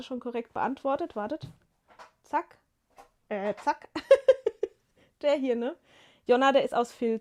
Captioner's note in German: gelächter